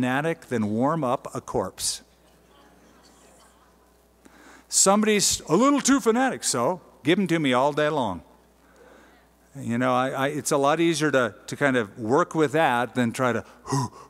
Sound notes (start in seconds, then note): 1.7 laughter